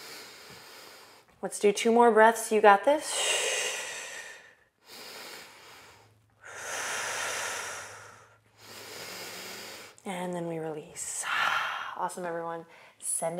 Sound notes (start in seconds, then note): 6.4 inhales and exhales